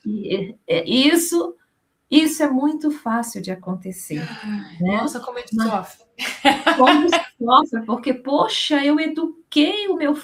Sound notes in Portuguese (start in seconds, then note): 6.2 risadas